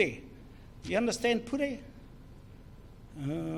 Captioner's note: foreign Language